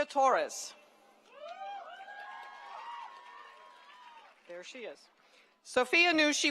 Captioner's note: applause